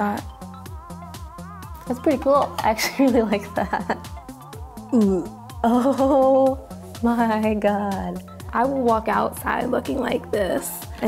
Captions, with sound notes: - That's pretty cool, I actually (laughs) really like that. - (grunts) - Oh! My god! - I will walk outside looking like this